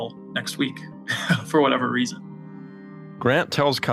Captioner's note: laugh